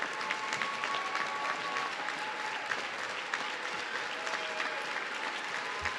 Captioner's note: audience continues cheering